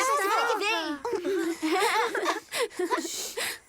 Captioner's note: giggling